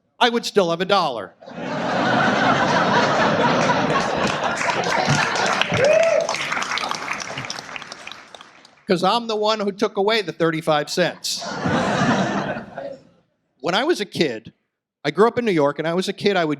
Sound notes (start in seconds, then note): 1.4 audience laughs, applauds; 11.0 audience laughs